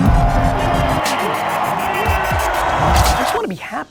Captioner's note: audience roaring